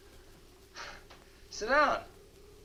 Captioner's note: chuckles